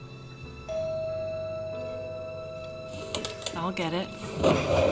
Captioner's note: doorbell ringing